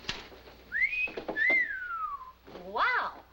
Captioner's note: whistles